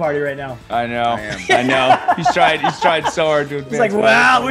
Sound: laugh

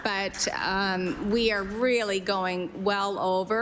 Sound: applause

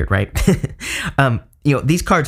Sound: chuckles

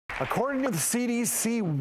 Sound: applause

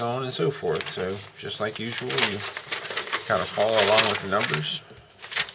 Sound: paper rustling

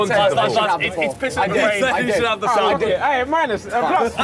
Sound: chattering

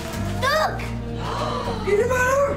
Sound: aunt laurie gasps

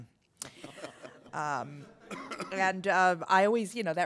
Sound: laughter

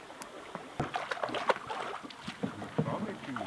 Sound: water splashing

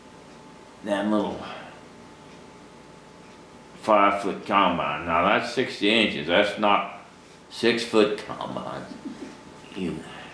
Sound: laughs

